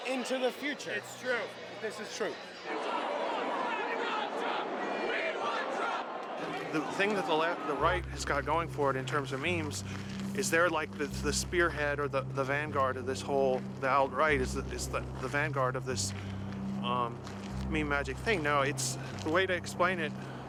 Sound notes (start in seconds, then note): 2.6 crowd chants